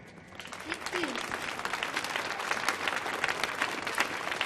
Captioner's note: audience clapping